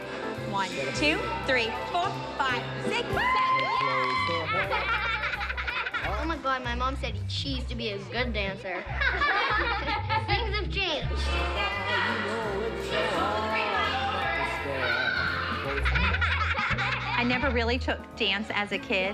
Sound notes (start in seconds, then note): 3.5 applause; 4.2 laughter; 8.7 laughter; 15.3 laughter